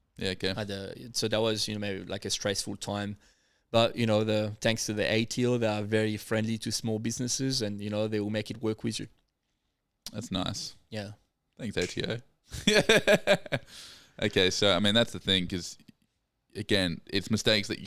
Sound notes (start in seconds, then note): 12.6 laughs